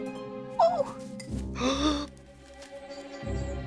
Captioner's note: gasping